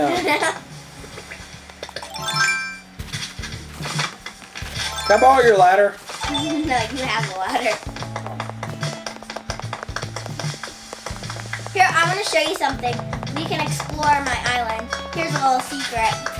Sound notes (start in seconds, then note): 0.0 laughs; 2.0 chime sounds; 4.7 chimes, climbing a ladder; 9.5 foot steps